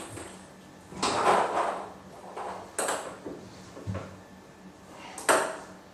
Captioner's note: balls ping pong hitting continues